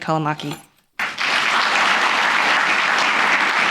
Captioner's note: applause